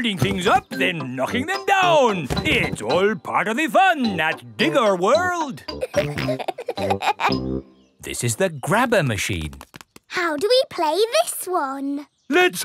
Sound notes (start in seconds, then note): 5.7 peppa and george laughing